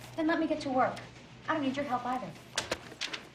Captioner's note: none